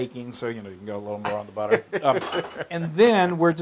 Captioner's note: laugh